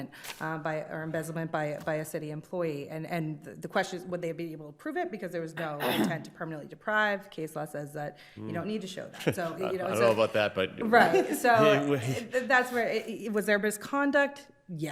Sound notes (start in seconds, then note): 9.1 chuckles